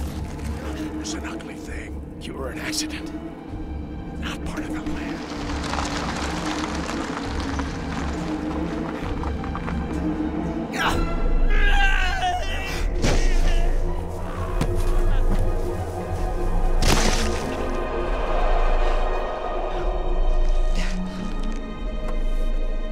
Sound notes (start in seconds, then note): 6.3 tires crunch; 11.9 shouting; 16.8 wet thudding